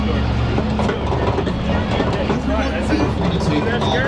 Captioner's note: tram creaking